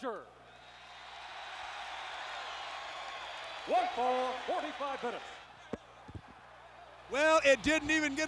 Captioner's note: applause